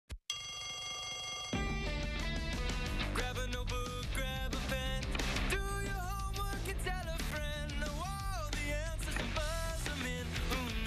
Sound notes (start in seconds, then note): 3.1 bell rings